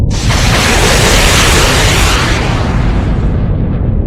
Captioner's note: rockets launching